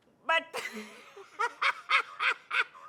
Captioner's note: laughs hysterically